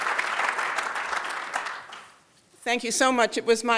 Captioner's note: applause